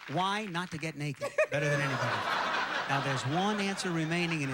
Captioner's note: audience laughing